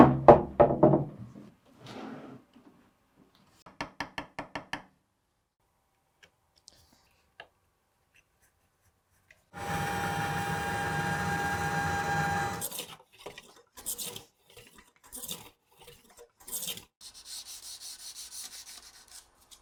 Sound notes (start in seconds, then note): 0.4 tabletop thudding; 4.2 chisel thudding; 9.5 saw buzzing; 13.5 hand planer scraping; 17.0 sandpaper scraping